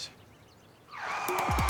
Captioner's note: tires screeching